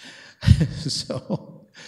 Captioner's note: laughing